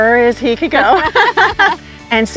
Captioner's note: both laughing